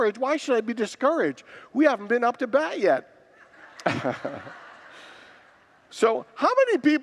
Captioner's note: congregants laugh